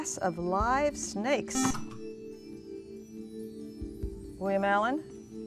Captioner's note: buzzer